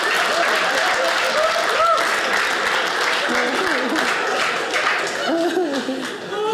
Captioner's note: audience laughing; audience clapping